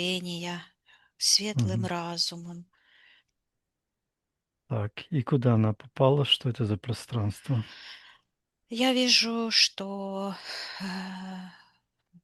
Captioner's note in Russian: вздыхает